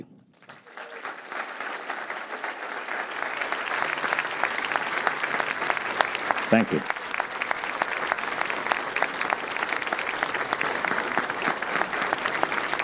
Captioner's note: applause